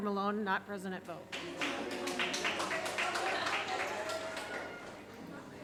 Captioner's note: audience applauding